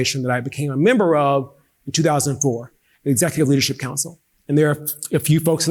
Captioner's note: none